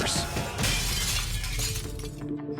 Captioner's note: glass shattering